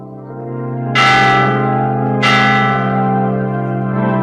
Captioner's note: church bell tolls